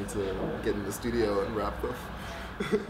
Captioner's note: laughs